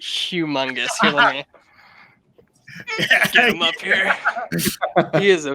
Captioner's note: laughing